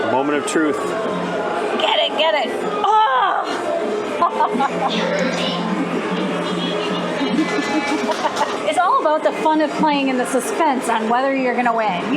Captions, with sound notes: The moment of truth. Get it, get it. Oh! [laughter] It's all about the fun of playing and the suspense on whether you're going to win.